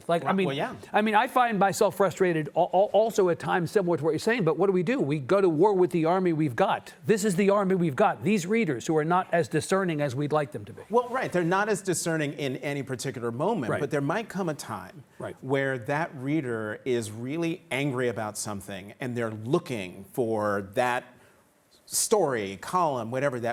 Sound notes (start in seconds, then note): none